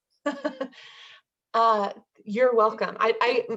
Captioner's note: laughs